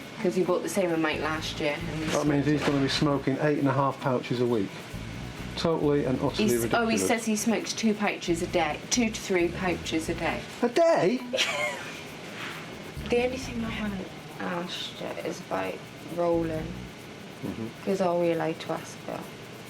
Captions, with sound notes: 'cause he bought the same amount last year. - That mean's he's gonna be smoking eight and a half pouches a week. Totally and utterly ridiculous. - Oh, he says he smokes two pouches a day, two to three pouches a day. - Per day! (laughs) - The only thing I haven't asked yet is about rolling, cause are we allowed to ask that?